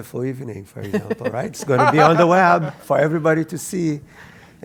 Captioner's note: laugh